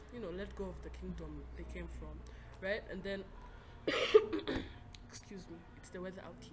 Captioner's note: coughs violently